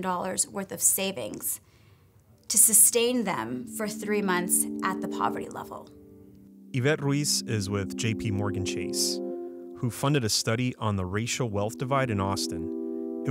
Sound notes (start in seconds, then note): 6.8 voiceover